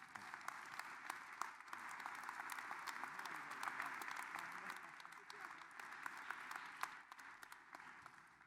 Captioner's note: applause